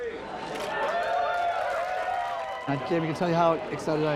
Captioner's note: cheering